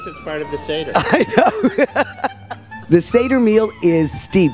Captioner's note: laughs